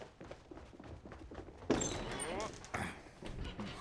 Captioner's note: grunting